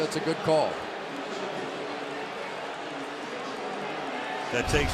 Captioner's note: announcer on pa